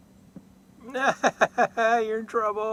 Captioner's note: laughter